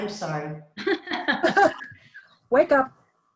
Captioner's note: laughs